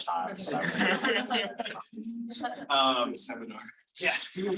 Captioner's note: audience laughing; audience laughing